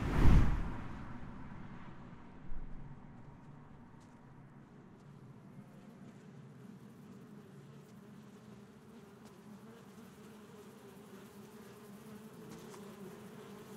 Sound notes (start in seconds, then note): 5.0 swarm of flies buzzing